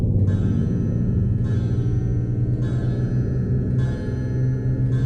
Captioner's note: clock chiming